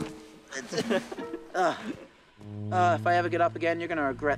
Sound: Sam chuckles; Rikki grunts

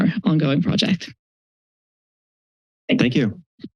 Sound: silence

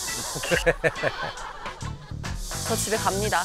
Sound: giggling

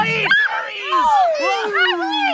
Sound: screaming

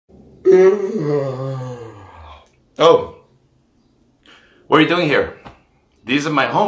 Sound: yawns

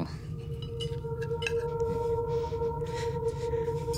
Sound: heavy breathing; suspenseful music

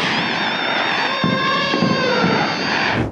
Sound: elephant trumpeting

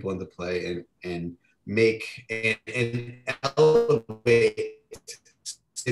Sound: audio distorting

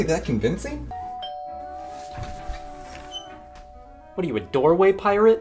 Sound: doorbell ringing

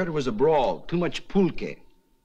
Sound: speaking foreign language

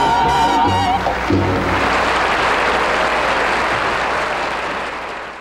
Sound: audience clapping

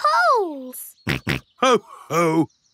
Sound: snorts

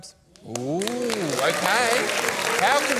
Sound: applause

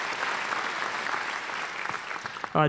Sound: applause

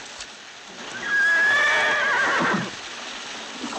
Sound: whinnying

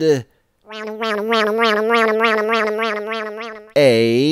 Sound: funny motor sound goes

